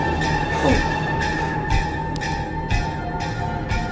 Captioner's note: dramatic music; gasping